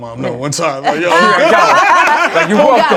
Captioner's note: laughter